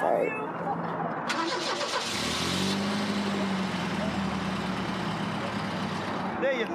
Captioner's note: car starting